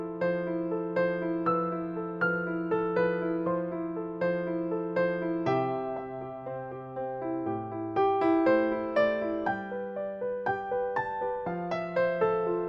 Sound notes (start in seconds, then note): none